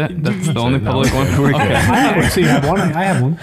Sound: all laughing

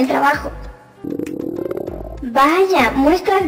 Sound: grumble

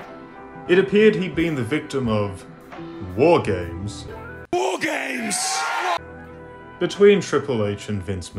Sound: William Regal shouting War Games

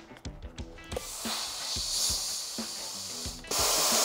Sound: buzzing

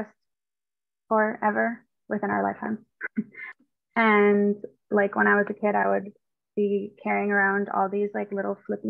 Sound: chuckle

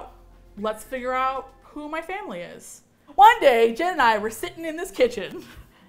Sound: cheerfully

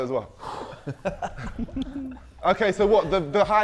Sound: Sidemen laughing

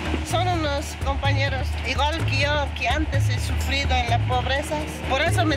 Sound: speaking in foreign language

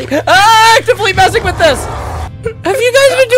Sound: Ravager noises

